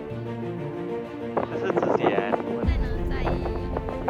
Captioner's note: swoosh, swoosh!